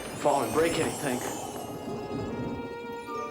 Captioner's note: twinkling